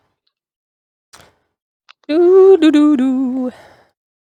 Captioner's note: humming